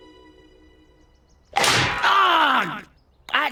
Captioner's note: clank